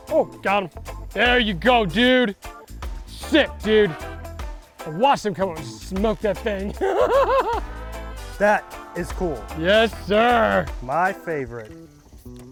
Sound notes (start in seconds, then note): 6.4 laughing; 12.3 fun upbeat music